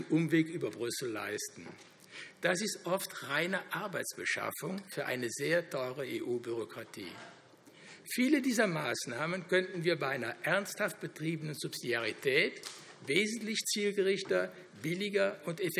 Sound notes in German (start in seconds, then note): none